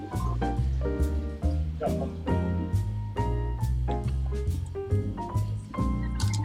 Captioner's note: laugh